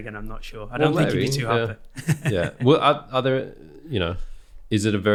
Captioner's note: laughing